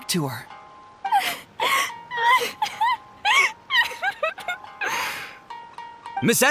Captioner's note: crying